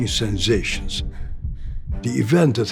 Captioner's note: heart beating; fast-paced breathing